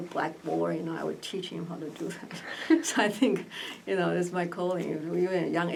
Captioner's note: laughs